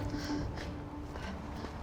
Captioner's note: sniffs